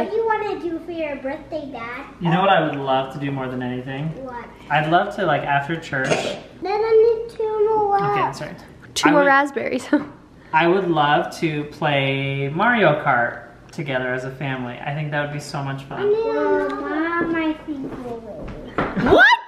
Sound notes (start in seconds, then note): 16.0 kids chattering